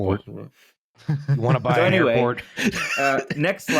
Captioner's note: laughs